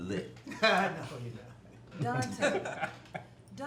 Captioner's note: guys laughing